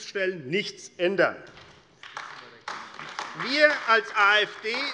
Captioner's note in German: Beifall AfD